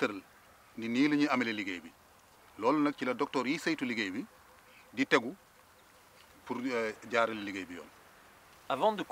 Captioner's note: repeats sentence in Wolof language